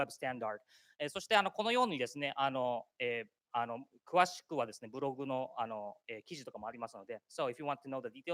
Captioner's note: speaking japanese